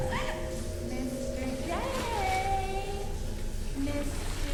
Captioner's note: high-pitched laughing; singsongy; splashing softly